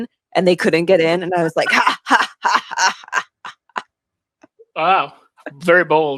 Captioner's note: mimics laugh